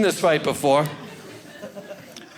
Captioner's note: audience laughing